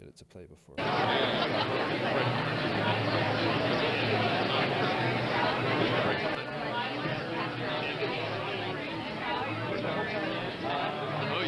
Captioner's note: crowd chatting